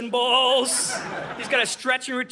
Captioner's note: audience laughing